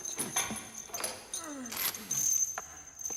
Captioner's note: grunting